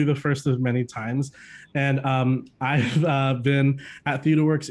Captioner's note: chuckling